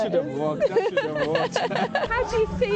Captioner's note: laughter